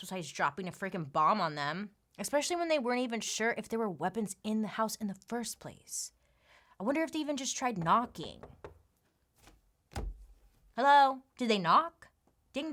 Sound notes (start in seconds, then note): 9.9 knocking